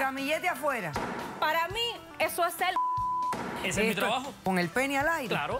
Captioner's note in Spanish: Bip